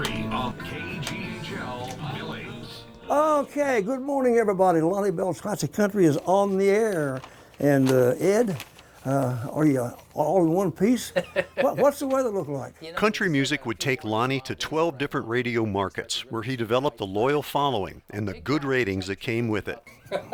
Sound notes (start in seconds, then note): 11.0 laughing; 13.2 voiceover